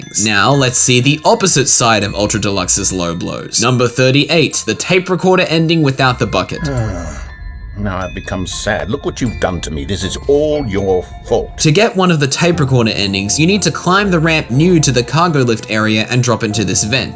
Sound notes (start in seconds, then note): 6.6 sigh